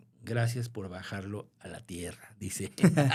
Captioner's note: laughter